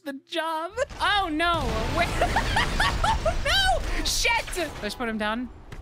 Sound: laughing

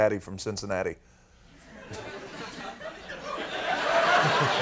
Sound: audience laughing

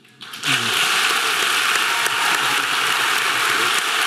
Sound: audience clapping

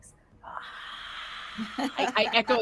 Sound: sighing

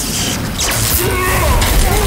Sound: sword groans

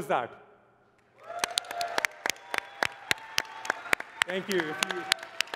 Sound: cheering and applause

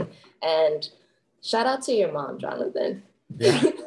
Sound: laughs

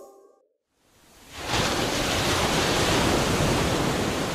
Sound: crashing waves

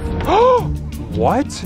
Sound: gasps

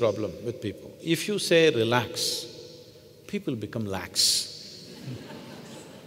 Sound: laughter

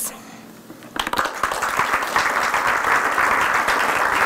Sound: applause

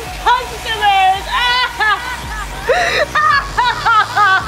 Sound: sobbing

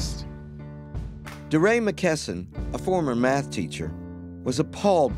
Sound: voiceover

